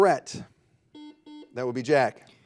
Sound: buzzer buzzes

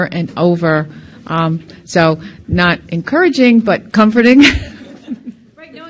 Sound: laughs softly

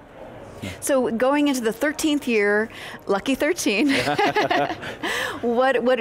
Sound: laughs

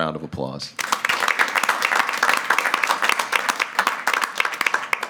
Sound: everyone claps

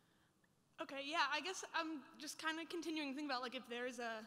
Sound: voiceover

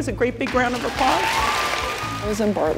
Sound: cheering and applause

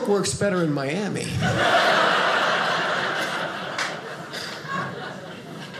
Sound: audience laughing

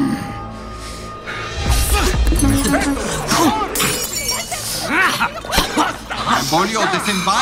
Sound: suspenseful music; commotion

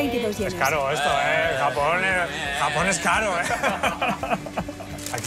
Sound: laugh

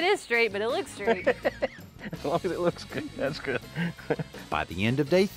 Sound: chuckles

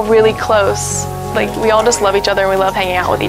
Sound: crowd chatter

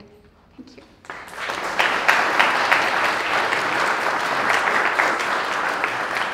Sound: applause

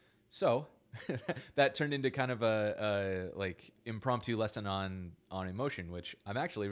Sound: laughs

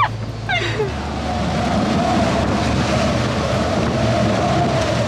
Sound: both laughing; wind howling

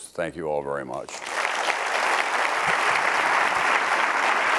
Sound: crowd applauding

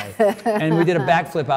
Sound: Cynthia laughs

